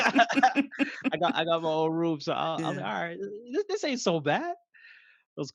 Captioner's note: laugh